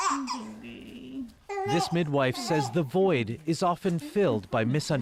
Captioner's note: baby crying